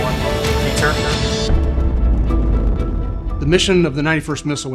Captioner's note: missile blasting